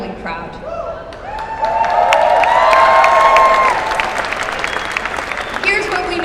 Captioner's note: cheers and applause